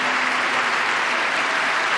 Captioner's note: applause